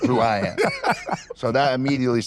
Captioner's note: laugh